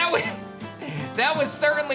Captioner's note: giggles